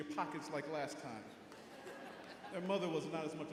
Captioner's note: audience laughing